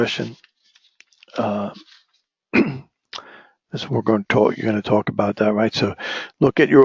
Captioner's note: cough